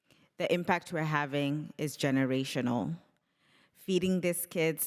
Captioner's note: none